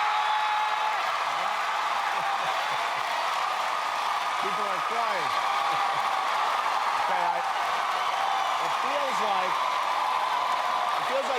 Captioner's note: cheers and applause